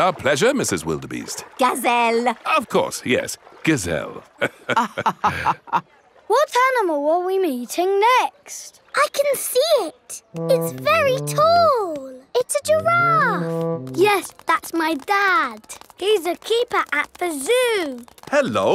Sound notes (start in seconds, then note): 4.4 both laughing